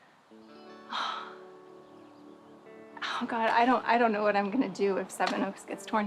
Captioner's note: sighs